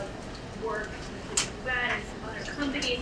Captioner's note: speaking away from mic